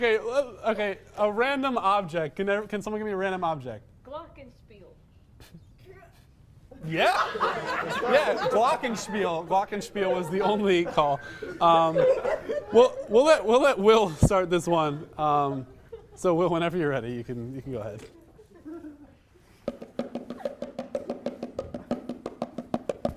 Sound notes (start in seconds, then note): 5.0 silence; 6.8 more laughter